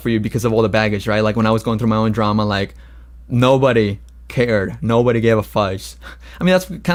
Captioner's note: laughs